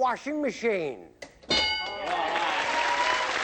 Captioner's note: ding